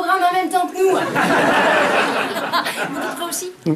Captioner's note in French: rires